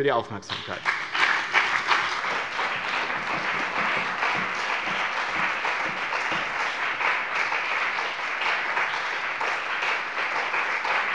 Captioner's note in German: Beifall bei dem BÜNDNIS 90/DIE GRÜNEN und der CDU